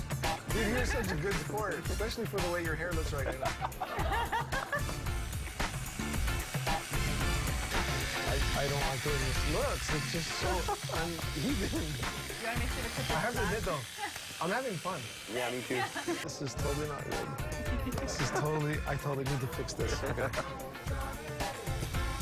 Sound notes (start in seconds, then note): 7.6 laughter